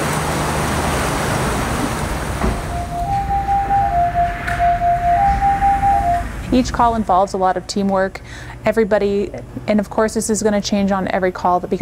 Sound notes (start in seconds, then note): 2.7 call alert tones